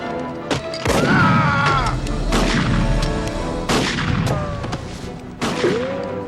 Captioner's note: Cole screams; gunshots booming